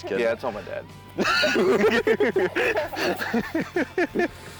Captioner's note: both laughing